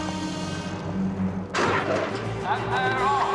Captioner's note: suara tembakan